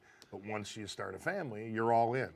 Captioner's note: none